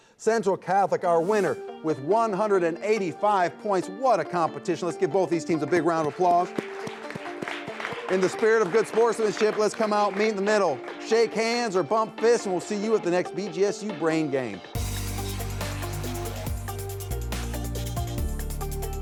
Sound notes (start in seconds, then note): 5.9 audience applauding; 6.6 upbeat music; 14.9 upbeat music continues